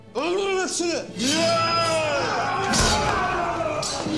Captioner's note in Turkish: Bağırma sesleri; Kılıç çekme sesleri